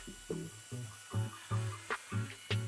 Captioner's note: Hoover sounds